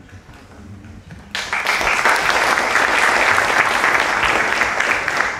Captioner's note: applause